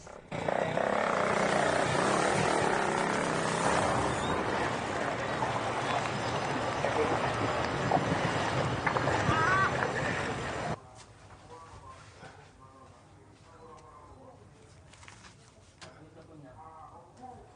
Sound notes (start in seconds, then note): 0.2 motorcycle rumbling; 0.2 water splashes; 9.1 ducks quacking; 12.2 TV muttering